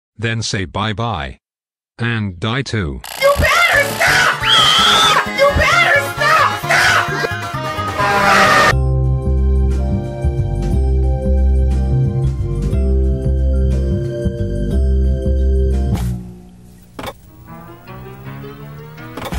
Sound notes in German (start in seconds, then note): 3.1 schrei